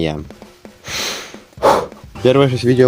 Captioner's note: exhale; inhale